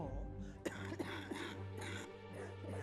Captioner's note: coughs